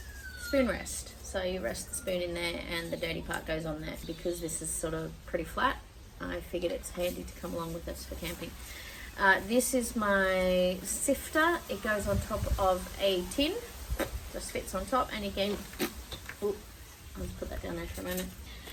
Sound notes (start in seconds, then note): 13.8 makes mouth raspberry noise; 13.8 makes mouth noise again